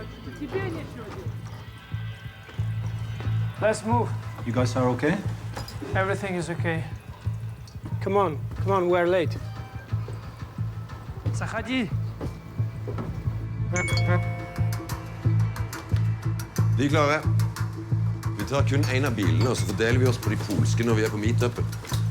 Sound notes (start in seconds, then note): 13.8 cell phone beeps